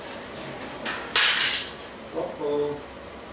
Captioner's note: clanking